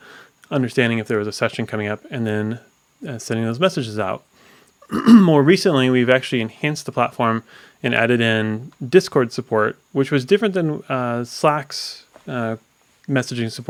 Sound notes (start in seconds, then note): 4.8 coughs